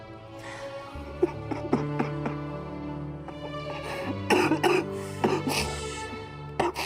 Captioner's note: somber music playing; sobbing